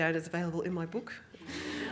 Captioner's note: audience Laughing